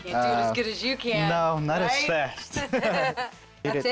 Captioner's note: chuckling